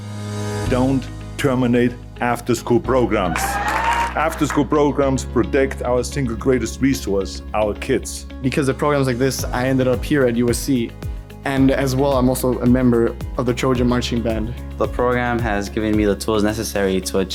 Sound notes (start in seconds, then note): 3.2 group applauding